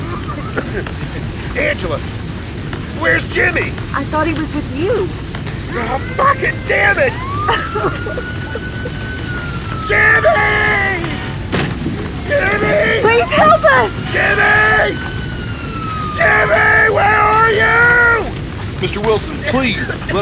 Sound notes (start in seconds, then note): 0.0 coughs; 8.5 cries; 19.2 coughing